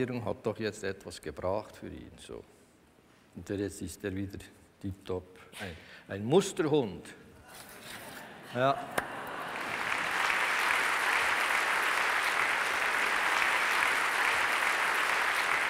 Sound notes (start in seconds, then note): 6.6 applause from the audience